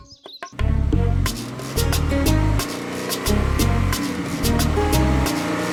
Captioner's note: car engine